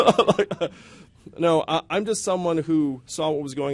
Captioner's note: yang laughs